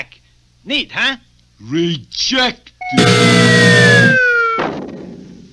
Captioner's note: buzzer Sounds; crash!